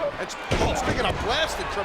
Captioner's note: bodies thud